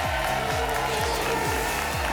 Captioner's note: whoosh; applause and cheering cont